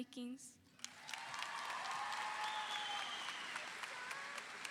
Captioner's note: audience cheering